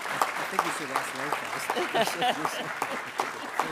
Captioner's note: attendees applauding; speaking faintly; laughing